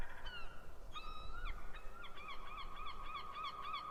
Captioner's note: seagulls calling